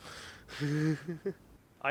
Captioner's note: laughs